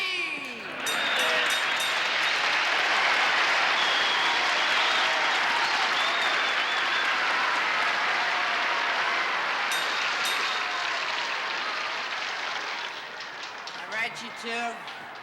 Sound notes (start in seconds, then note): 0.4 bell rings; 0.7 cheering